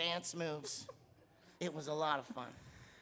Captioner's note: laughing